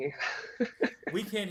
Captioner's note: laughs